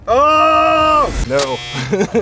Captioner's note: grunting